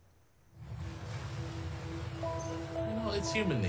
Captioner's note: water sloshing